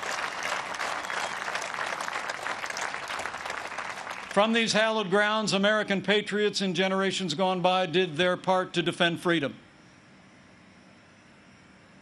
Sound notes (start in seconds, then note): 4.1 applause